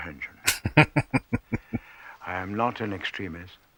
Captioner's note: laughing